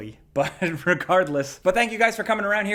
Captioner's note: laughing